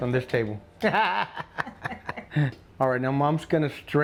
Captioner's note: both laughing